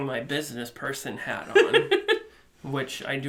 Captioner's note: chuckling